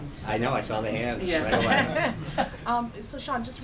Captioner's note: laughter